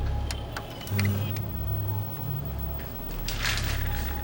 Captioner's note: monitors whirring